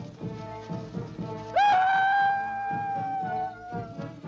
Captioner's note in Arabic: صراخ